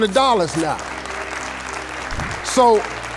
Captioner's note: audience clapping